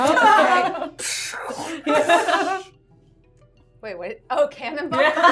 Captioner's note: everyone laughing